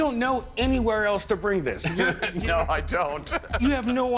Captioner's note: laughs